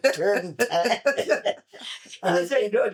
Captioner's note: laughter